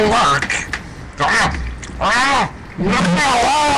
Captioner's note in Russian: чавкание